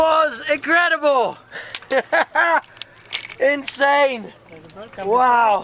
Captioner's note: laughs